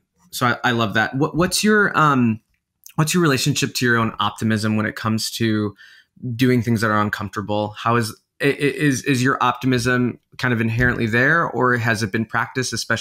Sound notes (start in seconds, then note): none